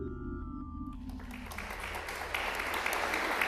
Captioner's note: applause